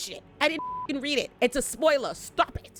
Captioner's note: beep